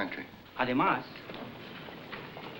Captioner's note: speaking spanish